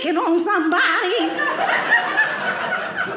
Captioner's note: audience laughing